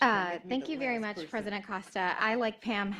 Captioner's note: laughter